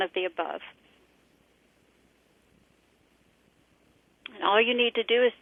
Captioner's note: pause